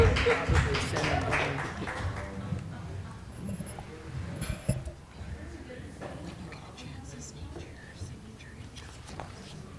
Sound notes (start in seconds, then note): 0.0 laughter; 0.0 applause